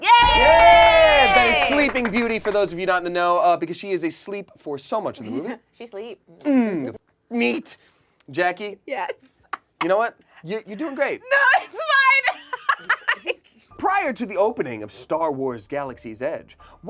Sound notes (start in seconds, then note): 0.0 group cheers; 9.3 laughs; 12.2 laughs